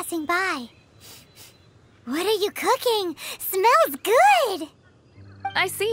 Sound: sniff

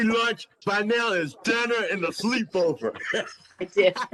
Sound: laughter

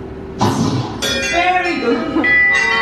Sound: magical rushing sound; bell ringing; multiple bells ringing

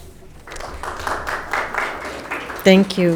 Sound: audience applauding

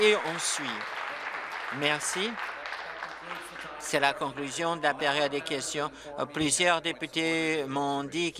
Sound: applause

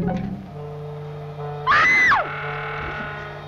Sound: screaming heard

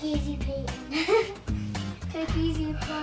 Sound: giggling

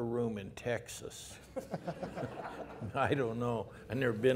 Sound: laughter

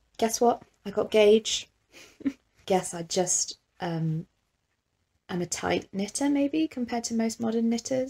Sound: awkward chuckle

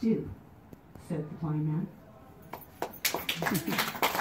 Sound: applause

